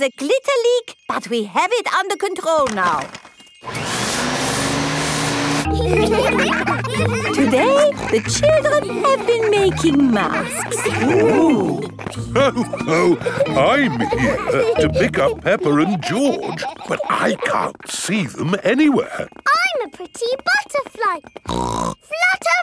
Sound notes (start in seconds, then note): 3.6 whirring; 6.3 all laughing; 12.6 laughs; 21.4 snorts